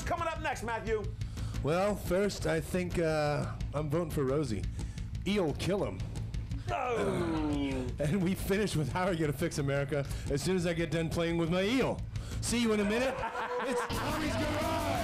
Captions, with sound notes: SO LET'S KICK THIS THING OUT. MATTHEW GUIDRY, WHAT'S COMING UP NEXT, MATTHEW? - WELL, FIRST I THINK I'M VOTING FOR ROSIE. EEL KILL 'EM. AND WE FINISH WITH HOW YOU'RE GOING TO FIX AMERICA, AS SOON AS I GET DONE PLAYING WITH MY EEL. [Laughter]